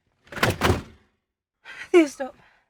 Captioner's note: blinds rolling